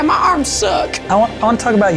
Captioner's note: in puppet voice